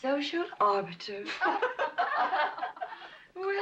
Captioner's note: women laughing